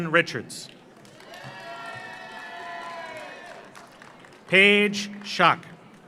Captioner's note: audience applauds; audience cheers